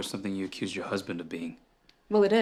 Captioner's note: none